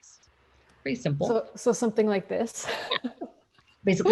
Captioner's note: laughs